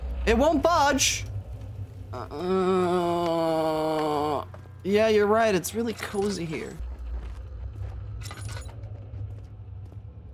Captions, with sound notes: It won't budge. (Groaning) Yeah, you're right. It's really cozy here. [Deep, rumbly ambience]